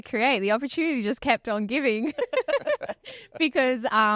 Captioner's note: laughs